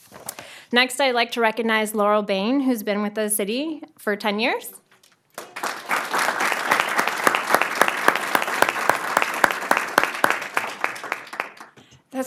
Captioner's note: applause